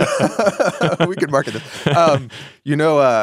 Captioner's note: both laughing